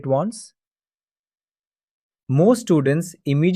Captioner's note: pause